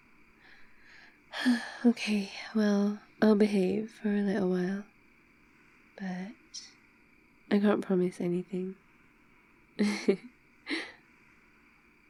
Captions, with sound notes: *sighs* ok, well I'll behave for a little while but... I can't promise anything *laughs*